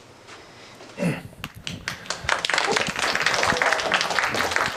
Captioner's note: applause